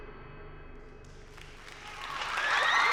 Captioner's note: music ends, applause; moms whooping